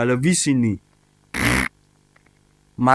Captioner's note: poop noises